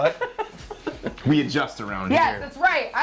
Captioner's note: laughs